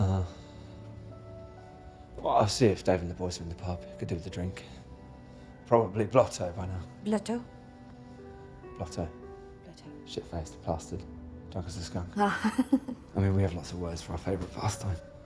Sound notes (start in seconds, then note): 12.3 laughing